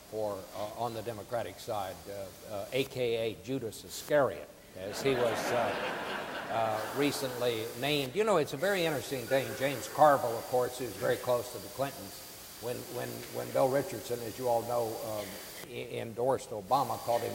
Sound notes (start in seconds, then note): 4.9 audience laughing